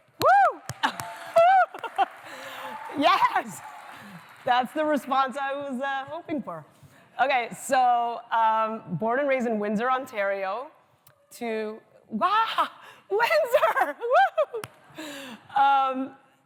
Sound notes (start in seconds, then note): 0.5 applause